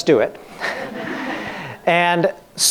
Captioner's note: laughing